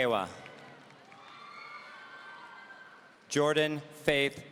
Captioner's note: audience cheering